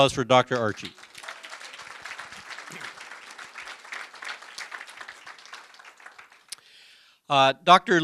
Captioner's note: applause